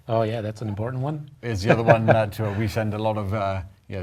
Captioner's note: laugh